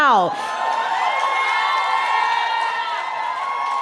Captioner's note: cheering